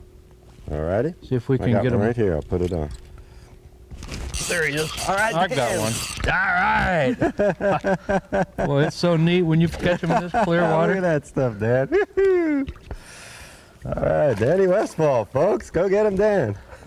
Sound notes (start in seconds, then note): 7.1 laughter